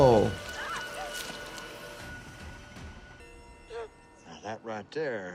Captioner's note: Lucy yelps